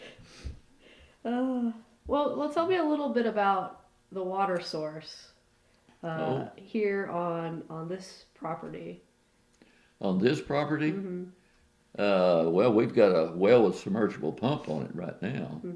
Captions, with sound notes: (Laughs) Well tell me a little bit about the water source here on this property. On this property? Well we’ve got a well with a submergible pump on it right now.